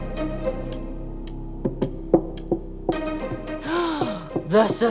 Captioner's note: suspenseful music; clock ticks faster; gasps